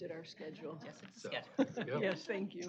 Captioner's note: overlapping chatter